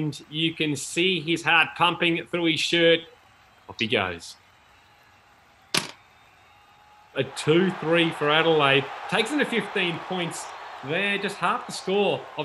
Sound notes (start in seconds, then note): 7.3 cheering